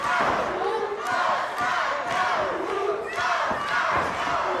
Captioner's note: audience chanting